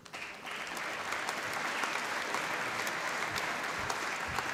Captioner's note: applause